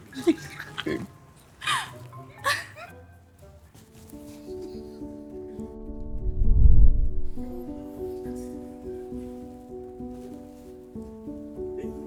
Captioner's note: laughter